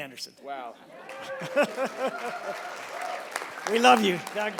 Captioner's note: applause